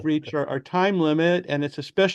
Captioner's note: laughs